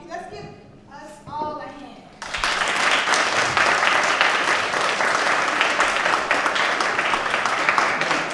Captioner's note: applause